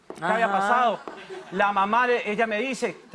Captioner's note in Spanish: risas